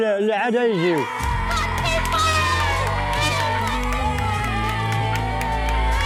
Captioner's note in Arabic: تشجيع